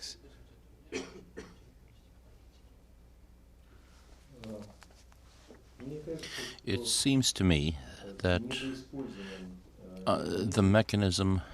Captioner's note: through translator